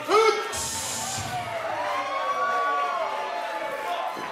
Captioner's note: crowd cheers